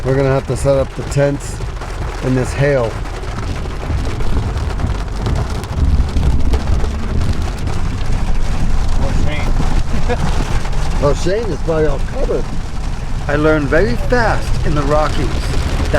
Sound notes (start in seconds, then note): 3.4 hail pattering; 9.8 laughs